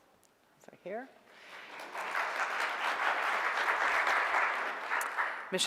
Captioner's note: audience applauds